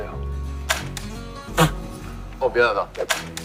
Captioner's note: laughing!